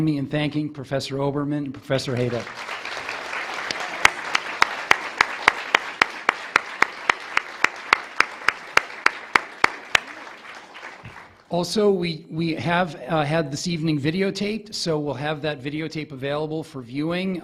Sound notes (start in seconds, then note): 5.3 audience clapping